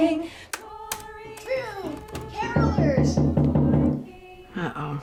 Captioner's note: knocking on door